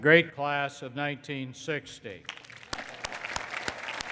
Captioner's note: applause